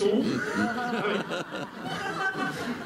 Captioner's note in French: rires